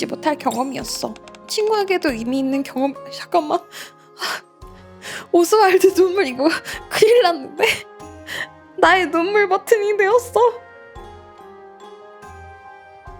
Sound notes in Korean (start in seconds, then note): 7.6 웃음